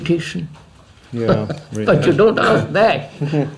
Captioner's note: laughs